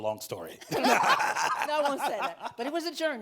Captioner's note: both laughing